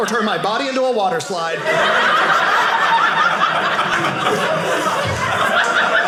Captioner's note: audience laughing